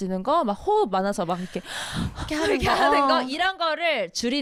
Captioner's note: inhale exhale